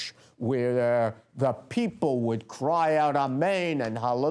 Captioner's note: non-english speech